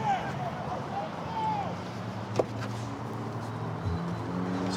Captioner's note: indistinct shouting; vehicles driving